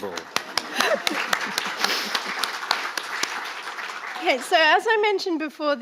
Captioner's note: audience applauding